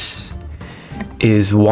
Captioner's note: inhales Oxygen